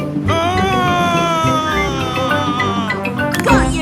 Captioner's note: screaming